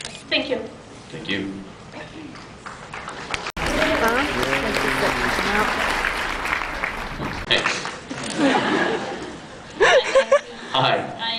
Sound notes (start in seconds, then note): 2.6 applause; 9.8 scattered laughs